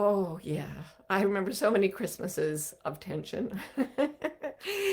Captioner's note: laughing